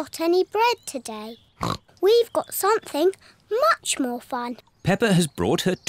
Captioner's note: snorts